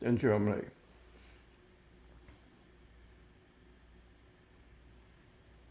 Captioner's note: pauses 8 seconds